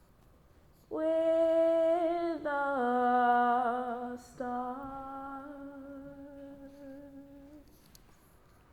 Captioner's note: fades into soft vocalization